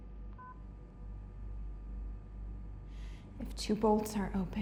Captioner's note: beeps